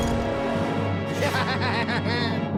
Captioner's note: laughing evilly